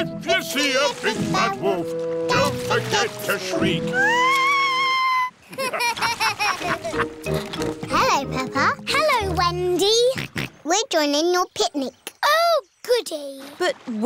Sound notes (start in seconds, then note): 3.8 shrieks; 5.4 laughter; 10.5 snorts